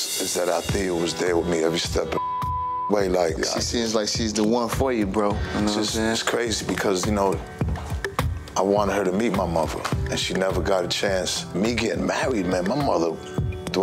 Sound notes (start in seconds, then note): 2.1 beep